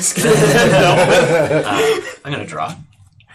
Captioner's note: all laugh